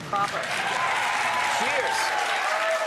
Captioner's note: audience cheers